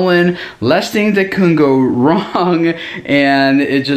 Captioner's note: laughs